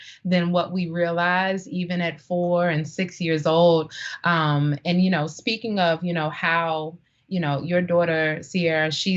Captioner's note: none